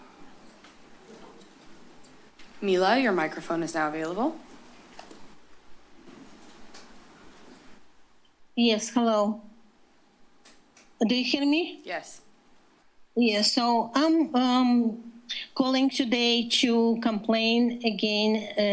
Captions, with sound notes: [pause] - Mila, your microphone is now available. [rustles] - Yes, hello. Do you hear me? - Yes. - Yes, so I'm calling today to complain again